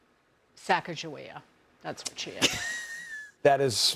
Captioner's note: laughter